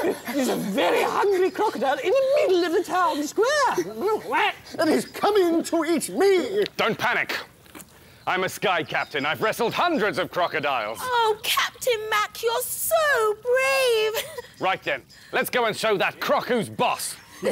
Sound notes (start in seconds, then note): 3.9 quack!